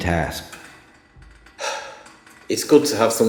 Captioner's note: sigh